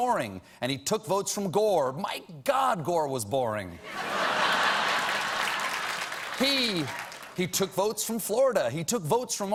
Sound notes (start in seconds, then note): 3.8 laughter; 4.4 applause